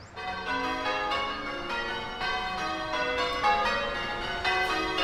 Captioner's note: church bells chiming